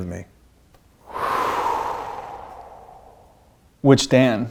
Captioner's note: sighing